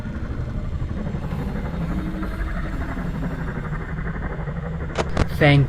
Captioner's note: Old Man Consequences Noises